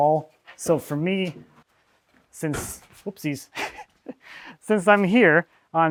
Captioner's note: chuckles